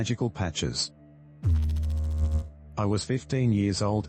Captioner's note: electrical noise